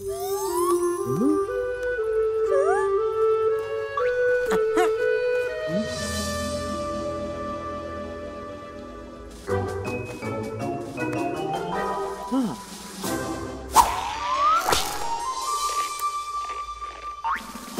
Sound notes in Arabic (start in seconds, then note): 0.3 موسيقى ترقّب; 9.1 موسيقى غموض; 12.0 صوت همهمة